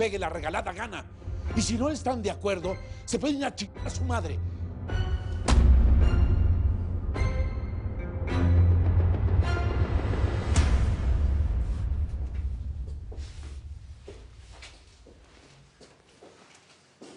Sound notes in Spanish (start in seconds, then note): 5.6 Ruido al tirar teléfono